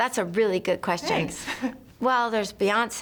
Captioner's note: laughs